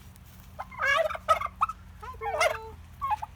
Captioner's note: turkey gobbles